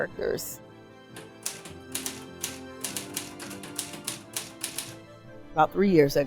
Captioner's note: emotional orchestral music; typewriter noise